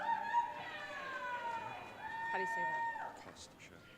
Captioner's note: audience cheering